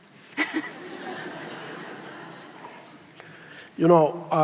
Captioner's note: audience laughs